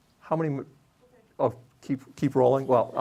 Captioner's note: lady speaking off mic